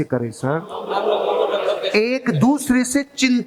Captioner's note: chattering